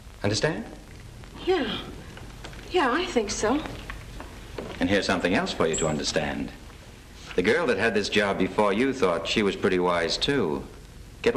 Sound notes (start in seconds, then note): none